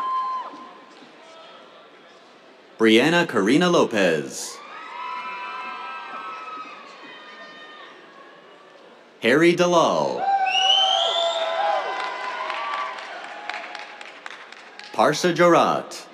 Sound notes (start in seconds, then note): 4.5 cheers; 10.2 cheers, whistles